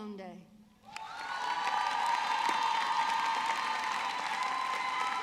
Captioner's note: audience clapping